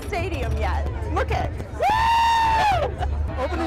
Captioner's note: laughs